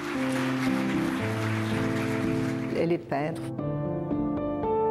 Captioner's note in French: applaudissements